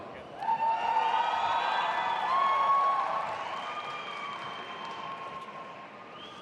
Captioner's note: audience applauding and cheering